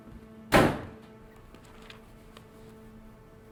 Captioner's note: door slams; gentle music